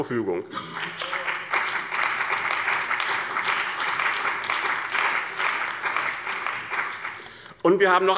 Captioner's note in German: Beifall bei dem BÜNDNIS 90/DIE GRÜNEN und der CDU